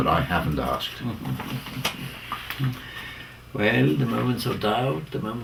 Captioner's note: laugh